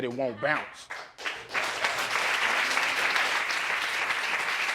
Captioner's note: all applauding